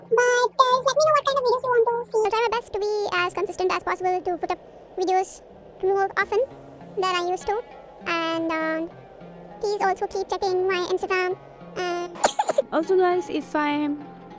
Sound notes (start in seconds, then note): 11.9 chokes in chipmunk